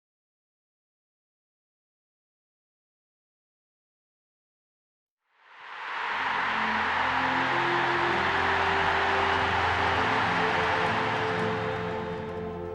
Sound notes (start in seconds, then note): 6.1 emotional orchestral music; 6.3 crowd roaring